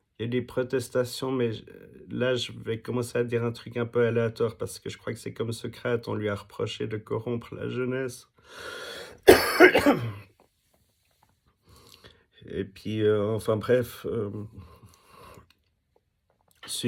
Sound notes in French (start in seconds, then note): 9.2 toux